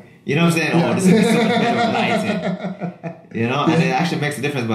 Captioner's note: laughs